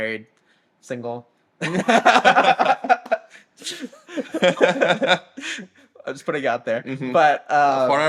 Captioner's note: laughter